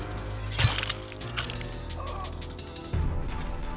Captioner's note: flesh squelches; dramatic music